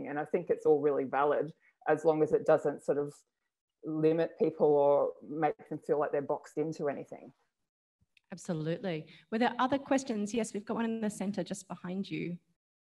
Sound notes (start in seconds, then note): none